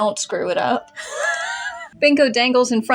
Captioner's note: wheeze